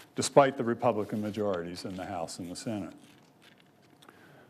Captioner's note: none